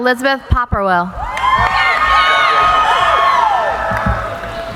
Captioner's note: cheering